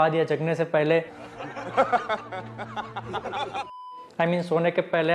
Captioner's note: slow chuckles